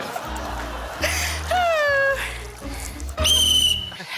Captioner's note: sighs; blows whistle